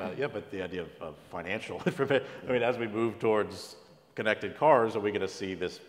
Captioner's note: laugh